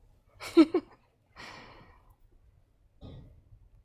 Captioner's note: laughing